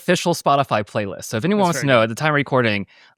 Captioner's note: faintly speaks